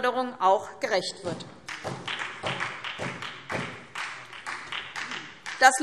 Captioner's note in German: Beifall SPD